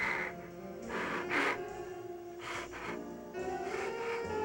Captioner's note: whimpering; sobbing